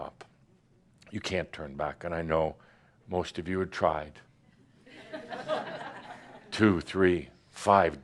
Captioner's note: some laughter